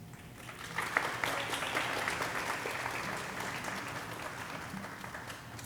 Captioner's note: audience applauding